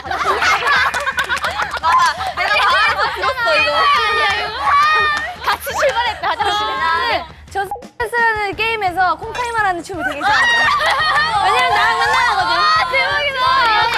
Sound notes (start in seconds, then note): 4.2 busy laughing; 10.0 laughing